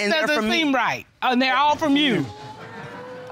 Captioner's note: audience exclaims